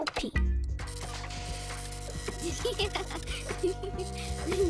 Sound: giggling

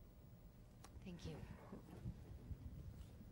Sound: voiceover

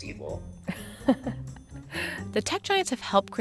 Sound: laughter

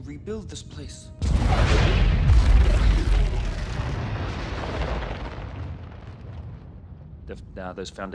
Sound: another explosion

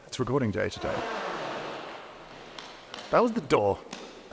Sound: loud creak

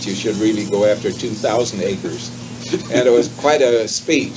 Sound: chuckles

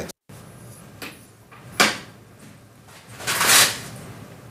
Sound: door slams

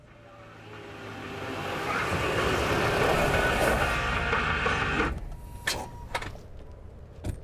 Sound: car engine roaring; upbeat music

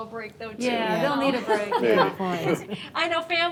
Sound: board members laughing and agreeing

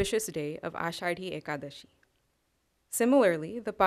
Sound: non-english

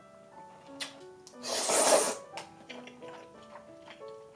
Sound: slurp

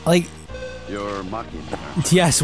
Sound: buzz in-game

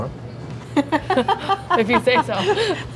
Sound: laughing

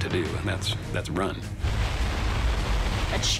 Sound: water crashing

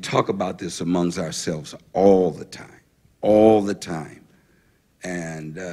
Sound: none

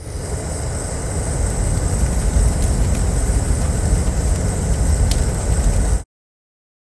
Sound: gas stove roars; crackling

